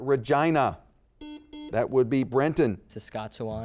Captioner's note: buzzer dings